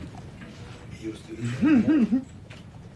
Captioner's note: chuckles